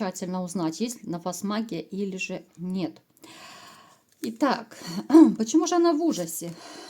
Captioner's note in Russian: откашливается